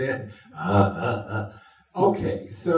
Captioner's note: grunts